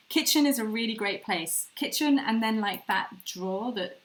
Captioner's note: none